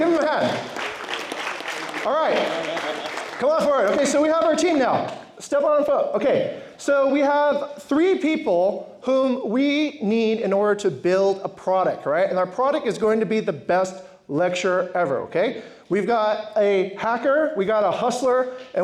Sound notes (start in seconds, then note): 0.0 applause